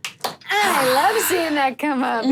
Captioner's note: claps and cheers; sighs